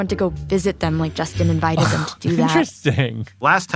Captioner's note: laughs